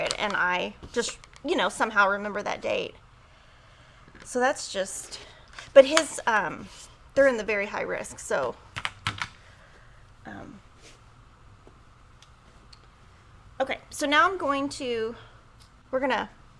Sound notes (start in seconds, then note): none